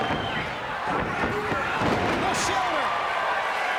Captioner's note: fans cheering